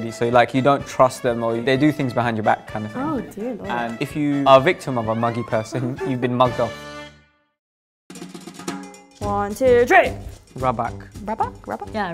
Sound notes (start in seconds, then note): 5.8 chuckles; 8.2 guitar music